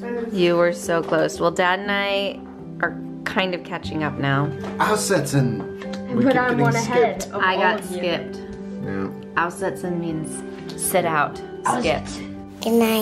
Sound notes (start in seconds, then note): 5.2 speaking in foreign language